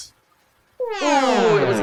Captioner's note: wonk sound